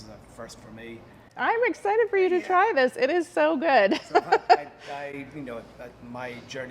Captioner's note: laughing